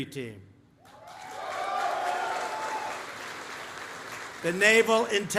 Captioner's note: applause